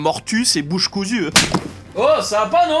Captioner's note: slapping sound